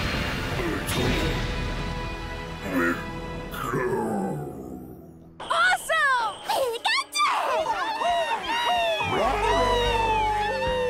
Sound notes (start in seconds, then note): 7.2 all cheer